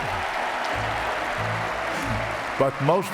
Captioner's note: audience applauding; audience cheering